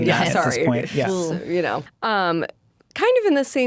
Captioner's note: exclaims